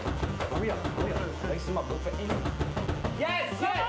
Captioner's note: banging on door